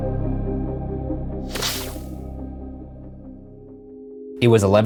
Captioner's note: electronic buzzing